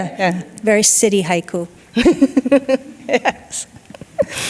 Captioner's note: laughing